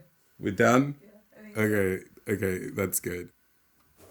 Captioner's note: background voice